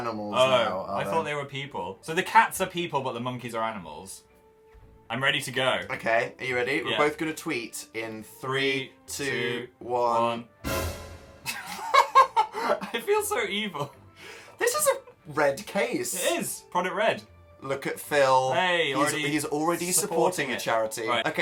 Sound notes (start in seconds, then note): 11.4 both snicker; 11.5 laughing